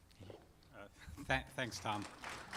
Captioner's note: applause